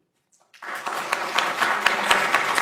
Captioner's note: applause